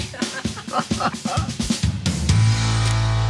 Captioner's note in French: rires